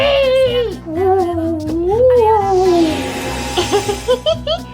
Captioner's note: ghostly sounds; giggles